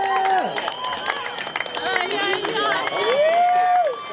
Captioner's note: cheering continues